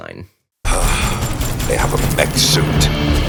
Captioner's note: dramatic music playing; gunshots sounding